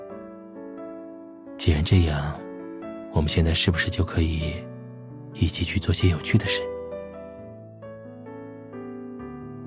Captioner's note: whispers